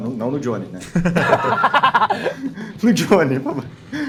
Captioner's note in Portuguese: risadas